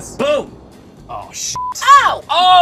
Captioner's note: beep